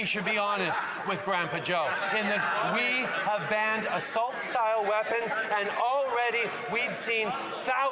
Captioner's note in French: voix de l'interprète